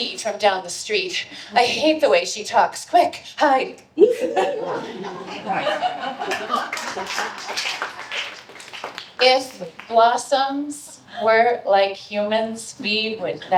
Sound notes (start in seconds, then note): 4.0 laughter; 6.2 applause